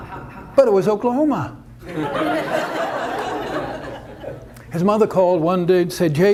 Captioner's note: audience laughter; audience laughter